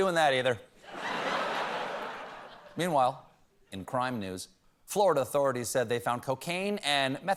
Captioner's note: laughter